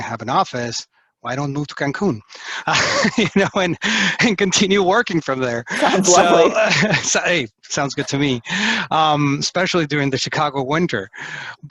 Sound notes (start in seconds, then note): 2.6 laughs; 5.6 laughing